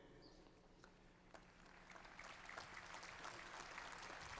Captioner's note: applause